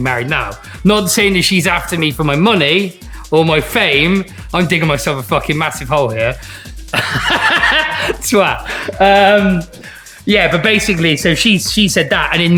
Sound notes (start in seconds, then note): 6.8 laughs